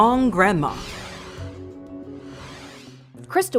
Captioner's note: logo swooshing